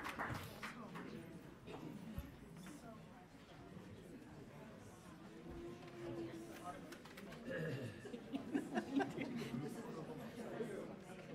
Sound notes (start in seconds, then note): 1.7 crowd chattering; 7.6 laughter